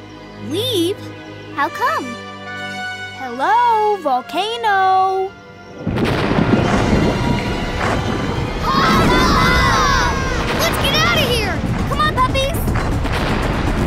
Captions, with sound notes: - Leave? - How come? Hello? Volcano. [screaming] - Let's get outta here! - Come on, puppies!